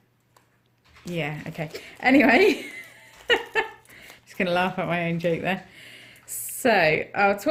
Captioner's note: laughs